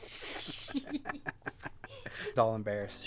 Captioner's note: laughing